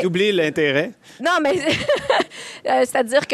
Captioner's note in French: rires